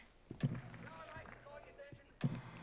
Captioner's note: TV powering on